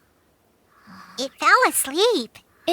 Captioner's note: soft snoring